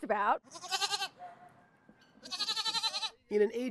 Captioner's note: goat bleating